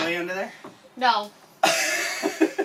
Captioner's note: more giggling